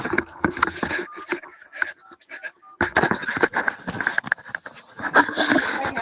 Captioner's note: loud scratching; beeps; loud scratching